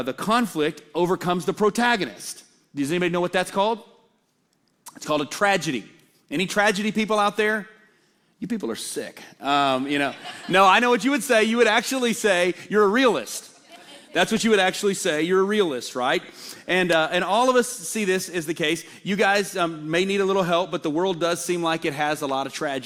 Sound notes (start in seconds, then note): 9.9 laughter